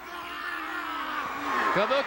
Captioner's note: The Great Kabuki yelling